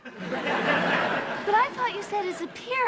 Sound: audience laughing

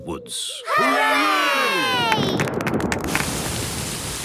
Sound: thunder

